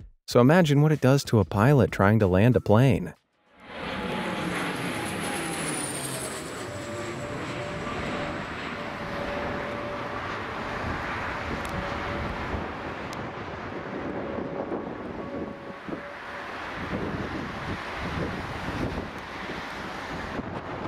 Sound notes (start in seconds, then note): 3.9 plane engine roaring; 13.2 thunder cracking